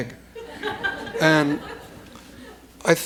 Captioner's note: laughter